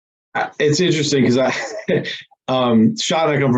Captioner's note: laughs